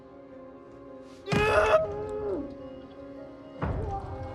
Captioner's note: Norman shouts